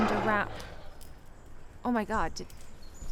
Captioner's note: animal grunting